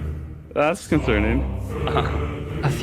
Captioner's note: laughs